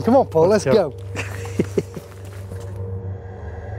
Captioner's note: laughing; eerie music